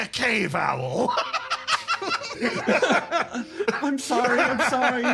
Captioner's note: laughs